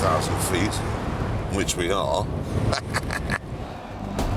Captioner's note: laughs